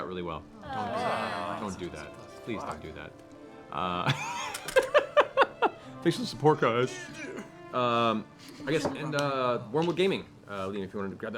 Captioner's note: laughs